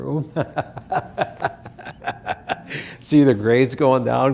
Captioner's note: laughing